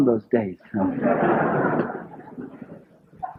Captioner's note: laughter